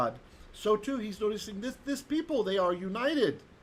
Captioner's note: Hebrew